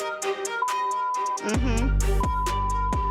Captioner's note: beep